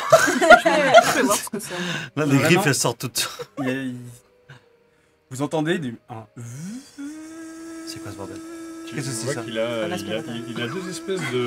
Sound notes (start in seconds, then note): 7.0 turbine whir